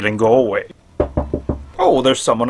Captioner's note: knock knock knock